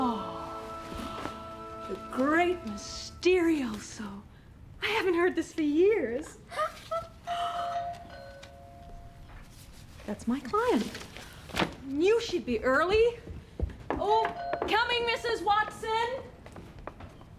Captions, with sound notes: Oh! The great Mysterioso. I haven't heard this for years. (doorbell ringing) That's my client. You should be early. Coming Mrs. Watson!